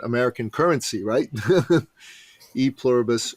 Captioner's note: laughs